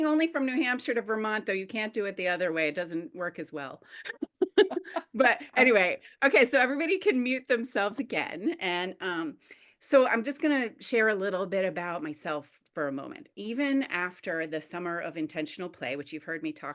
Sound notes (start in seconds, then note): 4.0 laughs